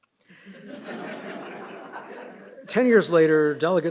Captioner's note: audience laughs